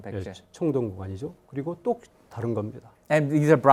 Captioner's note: speaking in Korean